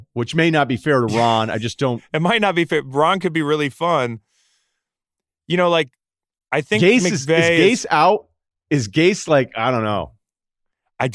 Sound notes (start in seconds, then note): 1.1 laughs